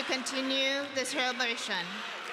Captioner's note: chanting continues